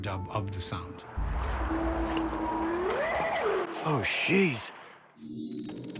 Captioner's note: eerie howl